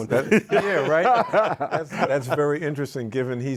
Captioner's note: group laughs